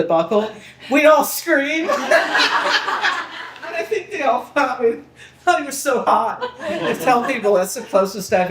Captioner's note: people laughing